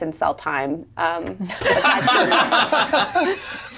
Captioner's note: laughs; all laugh